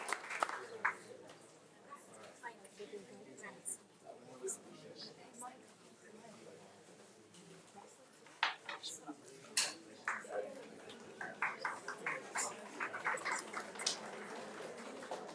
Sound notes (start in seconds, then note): 0.0 attendees chattering